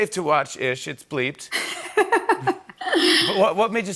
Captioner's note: laughs